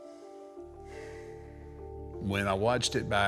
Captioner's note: Mark sighs